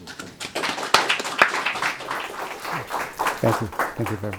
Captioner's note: audience applauding